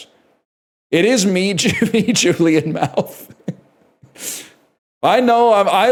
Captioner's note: laughs